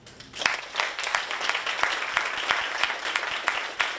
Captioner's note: audience applauding